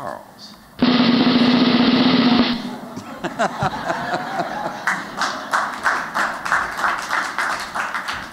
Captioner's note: drum roll; �applause�